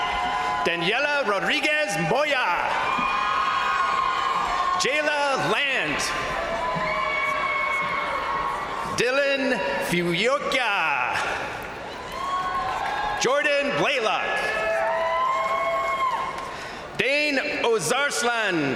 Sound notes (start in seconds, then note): 2.8 crowd cheering; 6.5 crowd cheering; 11.0 crowd cheering; 11.4 crowd applauding; 14.6 crowd cheering